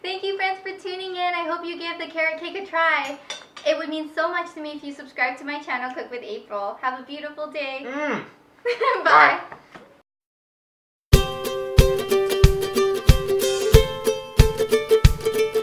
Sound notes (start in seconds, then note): 8.6 laughs; 11.1 bright ukulele music